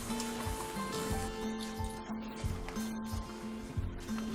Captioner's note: broom swooshing